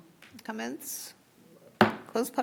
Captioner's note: gavel